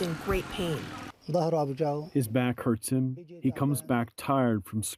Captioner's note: through translator